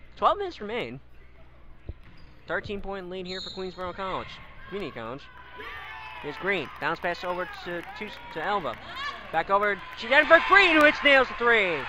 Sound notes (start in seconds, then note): 5.6 crowd cheers